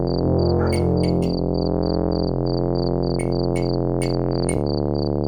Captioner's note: flashing tubelight